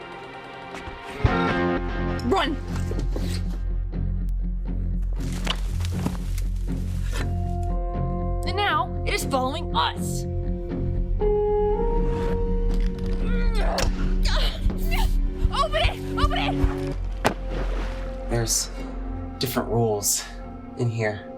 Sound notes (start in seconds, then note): 5.1 leaves rustling; 13.7 character grunts; 16.4 water splashes